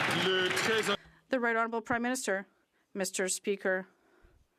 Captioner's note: some Applause